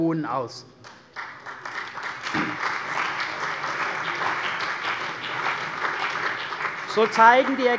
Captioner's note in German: Beifall bei der CDU und dem BÜNDNIS 90/DIE GRÜNEN